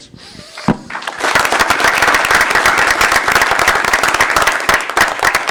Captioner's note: applause